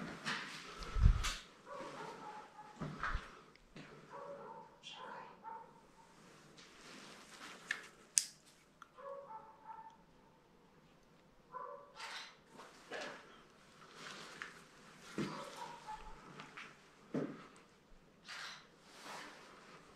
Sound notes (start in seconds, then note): 8.9 dog barking; 14.3 camera shutter